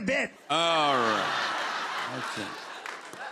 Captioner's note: laughter